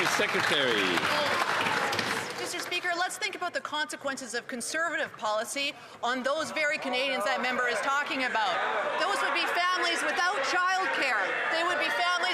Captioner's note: some Applause